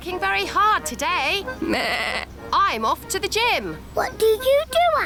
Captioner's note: bleats